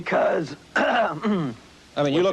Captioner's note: coughs